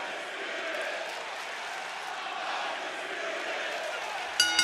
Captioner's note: fans chanting; bell ringing